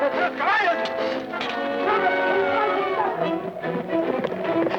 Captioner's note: guard shouting; suspenseful music